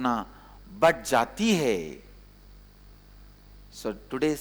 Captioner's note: hindi